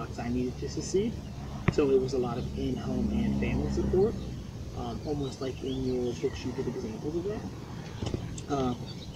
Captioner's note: car drives